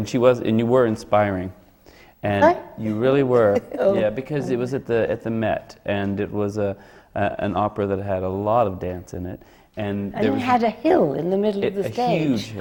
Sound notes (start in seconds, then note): 3.3 laughs